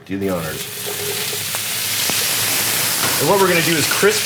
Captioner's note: sizzling